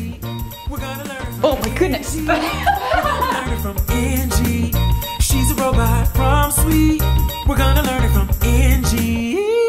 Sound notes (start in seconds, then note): 1.4 laugh